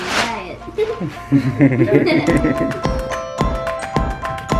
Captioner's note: laughs; upbeat music